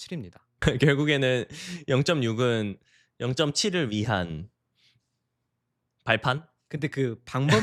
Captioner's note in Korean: 웃음